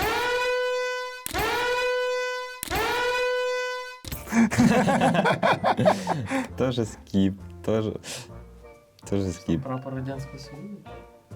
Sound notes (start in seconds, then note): 4.3 laughter